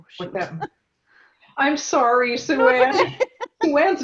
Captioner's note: laugh